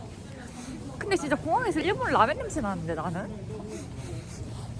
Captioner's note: sniff